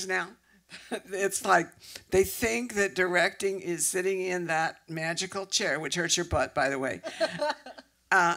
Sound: laughs

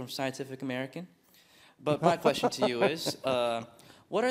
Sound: laugh

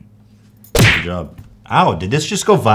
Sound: cartoon punch effect

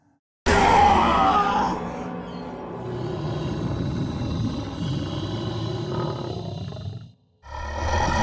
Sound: demonic groaning; groaning

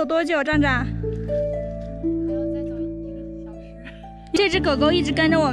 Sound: really low voice

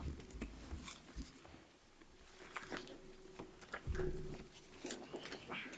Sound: items shuffling

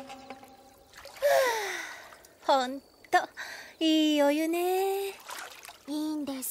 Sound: sighs

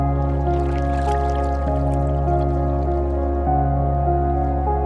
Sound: water splashing

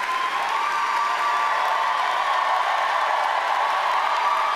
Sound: audience cheers loudly

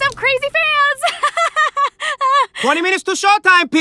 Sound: laughs

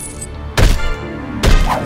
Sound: stomping

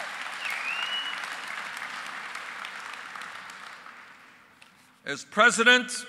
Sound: applause

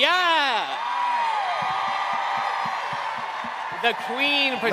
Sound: cheering

